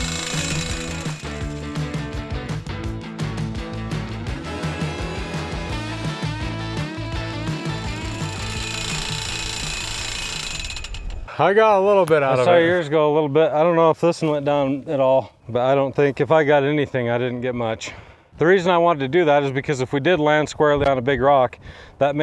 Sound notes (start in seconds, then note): 0.0 metal clanging; 0.0 energetic rock music; 7.9 metal clanging